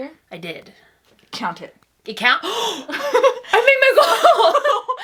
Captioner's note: gasp; laughs